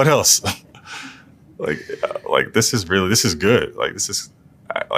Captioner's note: laugh